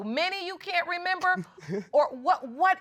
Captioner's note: chuckling